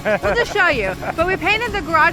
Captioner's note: laughter